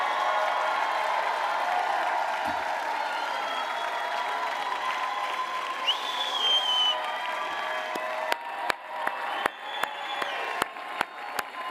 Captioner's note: loud cheering and applause